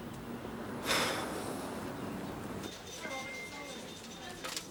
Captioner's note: Dave sighs; office workers chattering